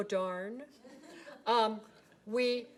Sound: people laughing

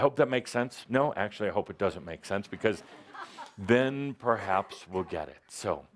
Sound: laughter

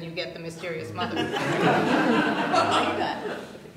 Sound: laughter

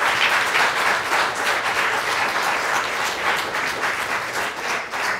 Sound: applause

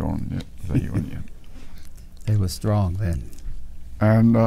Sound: chuckles

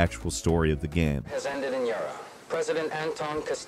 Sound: radio Announcer

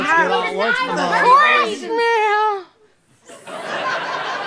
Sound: strangled voice; audience laughter

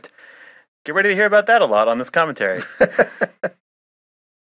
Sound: laughs

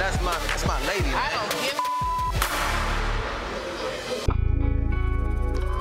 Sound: beep

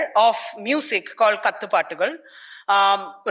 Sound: speaks in foreign language

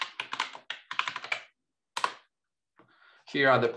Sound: keyboard clattering

